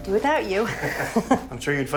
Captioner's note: laughs